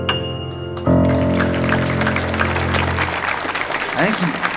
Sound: audience applauding

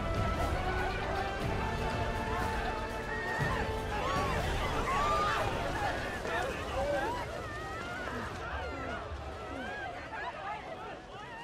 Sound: people screaming and murmuring

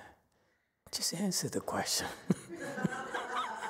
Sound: laughs, audience laughs

